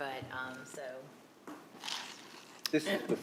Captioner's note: ice cubes rattling